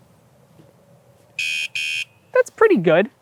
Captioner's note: silence; warning alarm